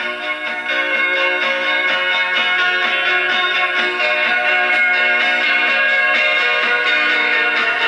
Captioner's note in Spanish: campana